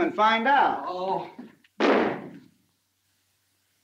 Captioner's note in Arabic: يُغلق الباب بقوة